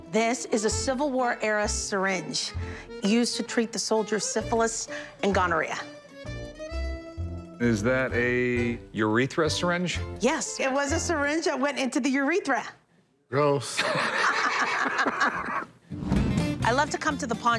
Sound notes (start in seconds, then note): 13.7 laughter